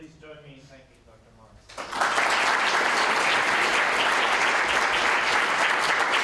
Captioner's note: applause